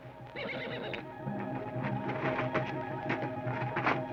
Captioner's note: horse whinnies